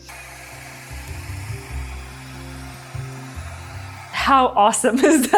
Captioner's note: machine whooshing